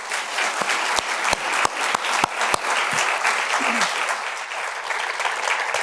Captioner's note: applause